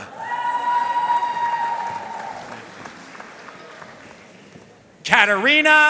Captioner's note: audience cheering and applauding